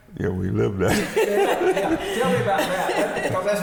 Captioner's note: both laughing